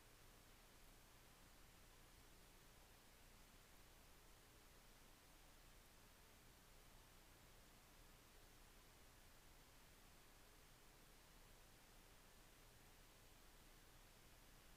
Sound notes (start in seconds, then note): none